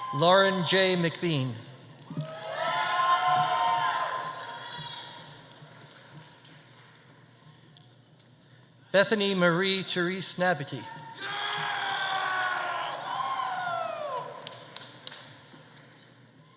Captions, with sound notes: Lauren J. MacBean. (audience applauding) (audience cheering) Bethany Marie Therese Nabity. (audience applauding) (audience cheering)